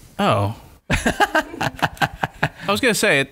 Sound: laughter

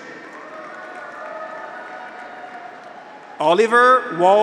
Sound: audience applauds; graduates cheer

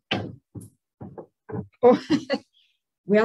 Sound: laughs

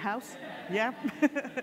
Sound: audience laughing

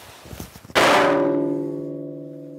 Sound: metallic clanking

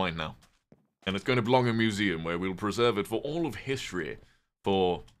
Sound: posh accent

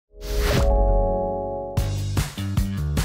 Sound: chimes; upbeat music

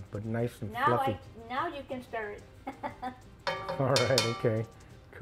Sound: laughs

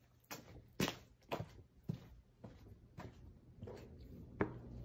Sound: footsteps thumping

